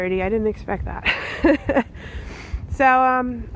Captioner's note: laughing